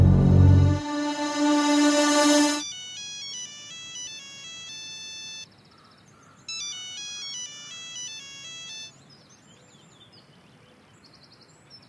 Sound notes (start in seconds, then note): 2.6 phone ringing